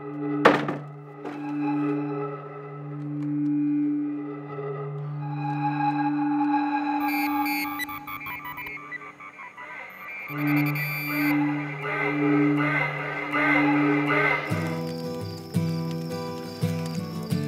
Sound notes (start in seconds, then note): 5.7 ghostly voice